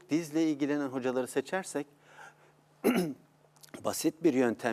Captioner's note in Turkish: boğazını temizler